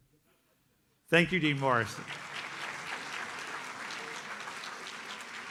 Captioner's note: audience applauds